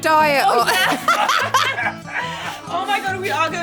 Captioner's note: all laughing